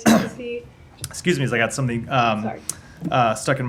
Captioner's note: coughs